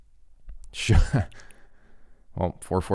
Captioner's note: laughs